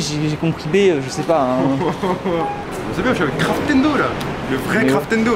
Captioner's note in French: Rires